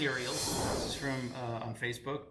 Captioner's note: whooshing